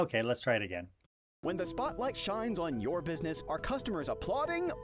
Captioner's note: voiceover